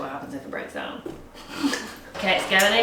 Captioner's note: both laugh